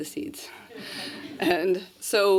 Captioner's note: laughter